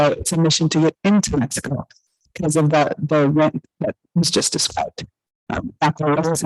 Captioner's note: audio echoing